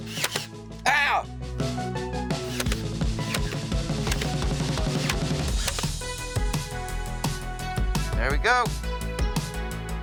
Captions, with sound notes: (machine pops) - Ow! (machine pops) - There we go.